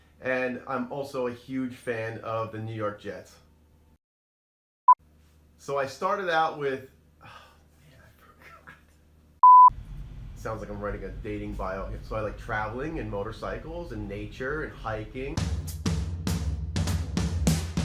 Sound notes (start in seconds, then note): 8.2 laughing